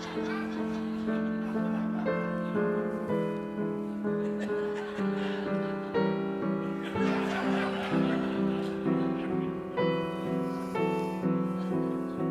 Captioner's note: laughter